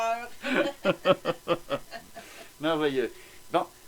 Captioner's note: laugh